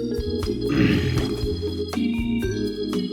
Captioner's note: groans